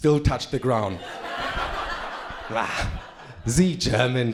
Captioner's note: crowd laughing